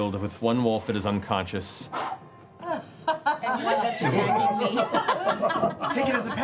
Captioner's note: laughter